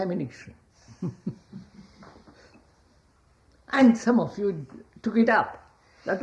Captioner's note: laughs